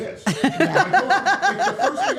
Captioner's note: Steph laughing